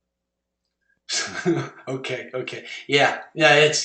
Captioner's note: laugh